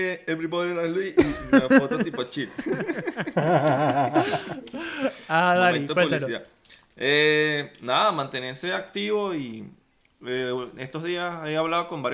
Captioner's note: laughter